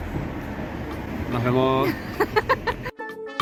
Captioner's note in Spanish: Risas